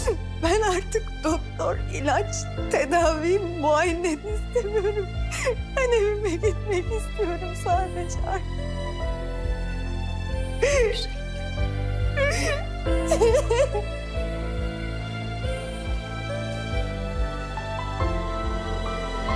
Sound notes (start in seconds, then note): 13.0 crying; 15.4 emotional music